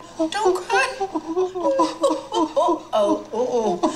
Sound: crying

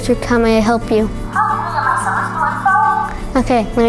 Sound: talking

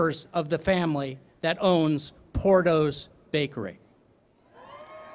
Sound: cheering

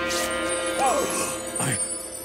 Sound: gasping

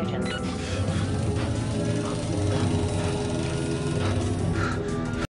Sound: beeps; breathing rapidly

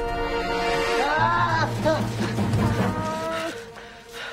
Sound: screams

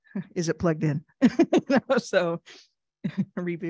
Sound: chuckles

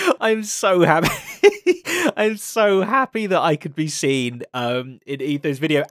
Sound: laughs

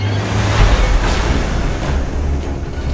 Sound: thunder rumbling

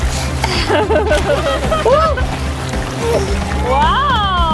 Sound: laughs

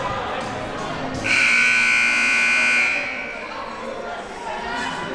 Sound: siren buzzing

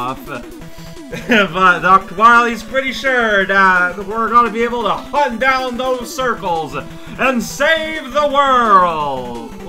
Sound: laughs

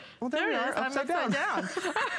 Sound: laughter

